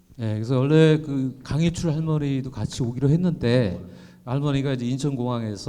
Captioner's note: speaking in foreign language